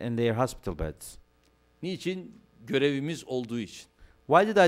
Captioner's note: non-english speech